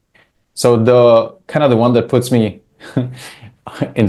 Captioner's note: chuckles